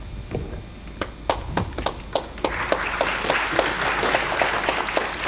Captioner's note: applause